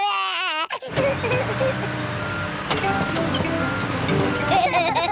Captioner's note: crying; engine rumbles; both laugh